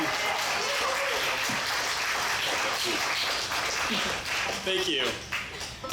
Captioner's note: audience applauds and cheers; band laughing and speaking softly